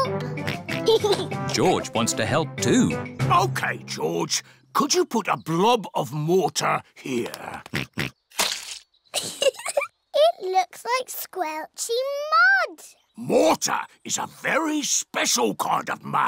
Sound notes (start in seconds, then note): 0.4 oinks and giggles; 0.4 oinks; 7.7 oinks; 9.1 giggles